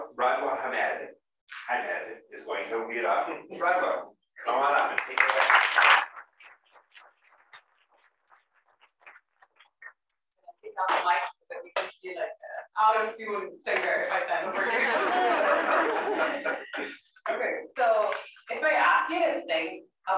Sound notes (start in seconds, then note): 4.5 applause; 14.4 laugh